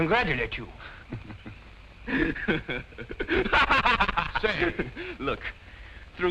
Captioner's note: laughs